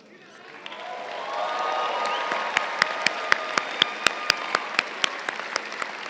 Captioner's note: crowd cheering and applauding